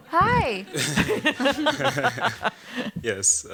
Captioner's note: laughter